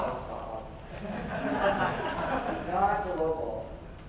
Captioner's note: audience laughs